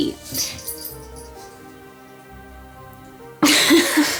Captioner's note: cat collar bell jangling; laughing